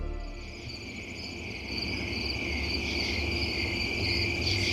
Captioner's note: crickets chirping